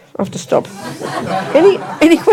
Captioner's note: audience laughs